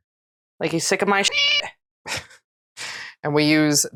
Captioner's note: meow